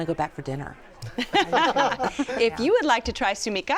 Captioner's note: laughter